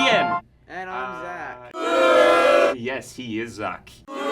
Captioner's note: booing